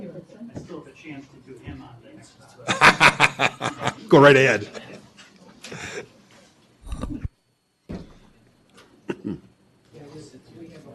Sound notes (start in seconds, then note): 2.6 laughter; 9.0 clears throat